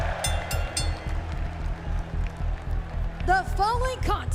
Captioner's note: crowd cheering; bell ringing